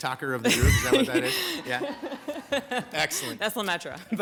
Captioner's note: attendees laugh